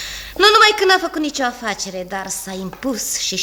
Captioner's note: none